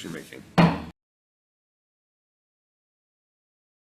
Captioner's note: gavel bangs